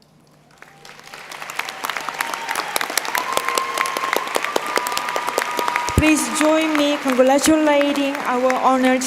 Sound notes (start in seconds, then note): 0.3 applause